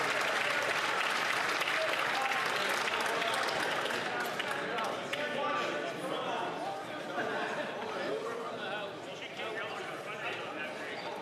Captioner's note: some Applause